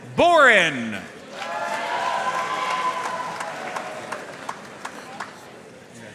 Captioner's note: audience cheering and applauding